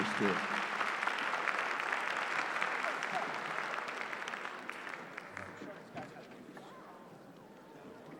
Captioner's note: applause